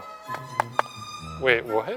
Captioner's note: teeth clacking